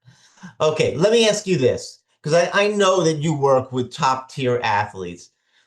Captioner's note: laughing